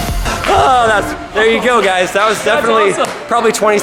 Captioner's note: sighing